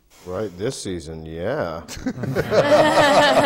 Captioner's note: laughter